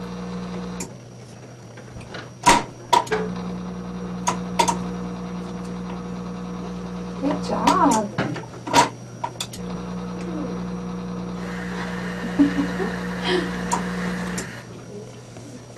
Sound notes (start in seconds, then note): 0.9 clicking; 11.8 chuckles